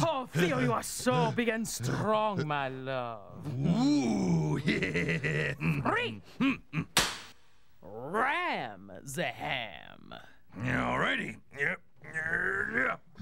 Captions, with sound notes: OH, THEO YOU ARE SO BIG AND STRONG, MY LOVE. WHOO... ( chuckles ) THREE-- ( cracks pointer ) "RAM THE HAM." ALL RIGHTY.